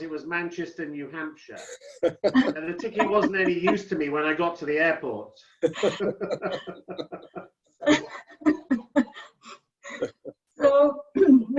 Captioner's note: laughter